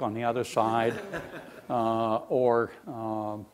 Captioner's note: laughing